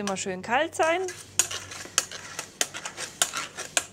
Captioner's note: metallic jerking